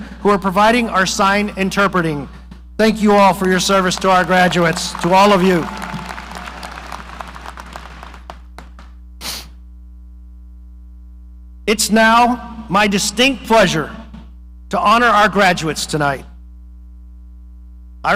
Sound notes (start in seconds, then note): 6.1 audience applauding